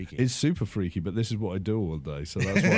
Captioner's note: laughter